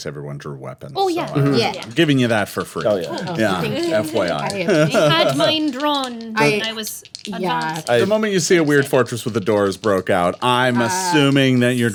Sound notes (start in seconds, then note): 4.9 laughing